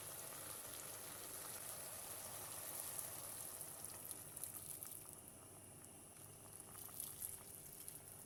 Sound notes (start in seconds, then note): 5.4 boiling water